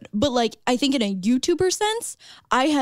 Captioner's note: none